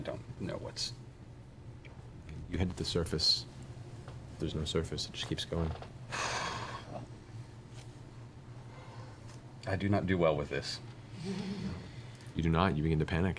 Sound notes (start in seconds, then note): 6.1 sighs